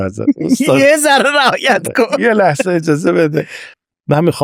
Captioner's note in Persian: خنده